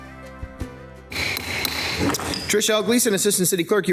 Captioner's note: gavel thudding